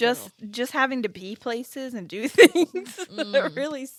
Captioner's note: laughs